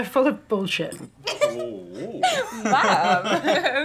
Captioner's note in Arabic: راشيل تضحك